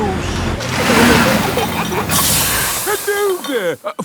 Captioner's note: peppa and george giggling; air hisses